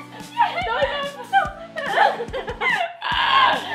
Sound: laughing

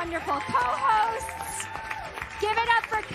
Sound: applause and Cheers

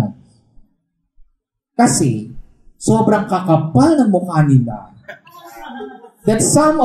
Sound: laughter

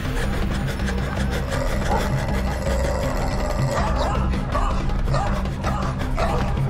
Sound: fast-paced drumming; dogs barking and growling

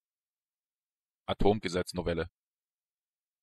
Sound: fast Pronunciation

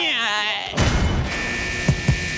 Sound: beep; door thudding; alarm buzzing

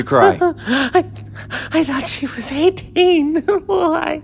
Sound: whispering

